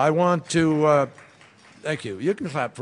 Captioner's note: applause